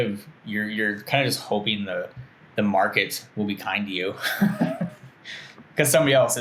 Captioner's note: laughs